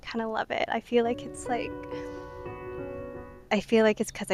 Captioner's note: breathes in